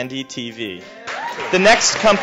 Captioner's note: applause